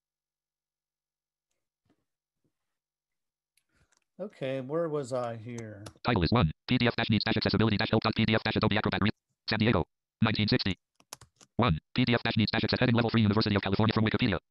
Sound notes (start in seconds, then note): 5.9 screen reader reads fast